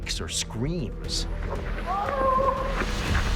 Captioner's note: creature shrieking